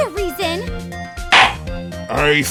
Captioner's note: gavel slams!